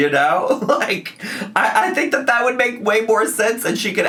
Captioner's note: laughs